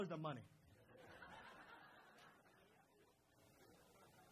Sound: crowd laughs

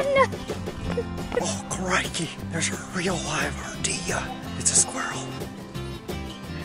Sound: in an Austrailian accent

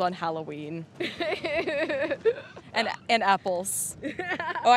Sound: laughing

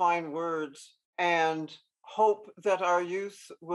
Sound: none

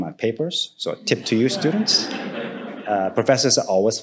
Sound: audience laughing

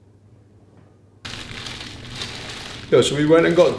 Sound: packet rustling

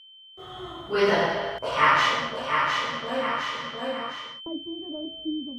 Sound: echo

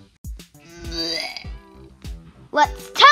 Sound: barfs

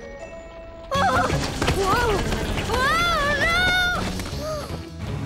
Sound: yelling

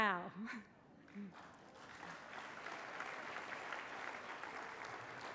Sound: applause

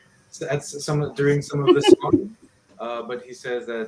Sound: laughs

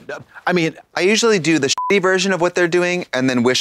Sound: beep

